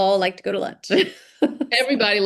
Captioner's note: laughing